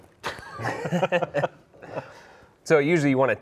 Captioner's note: both laugh